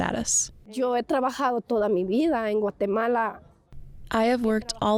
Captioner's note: speaking in foreign language